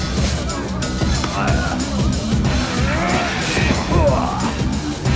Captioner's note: fighters grunting